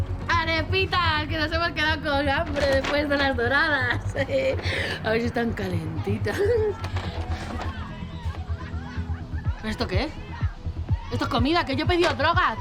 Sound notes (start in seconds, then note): 3.2 laughing; 5.8 laughter and indistinct voices